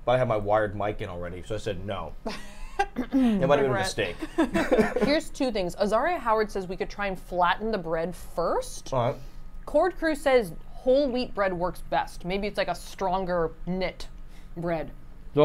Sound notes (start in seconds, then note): 2.3 laughs